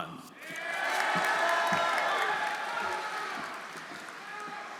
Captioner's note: audience cheering; audience applauding